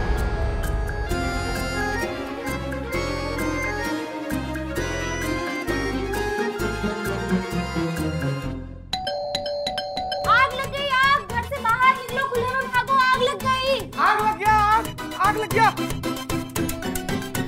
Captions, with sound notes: [doorbell ringing] Fire! Get out of the house! There's fire in the building! Fire! There's fire in the building! [comical music]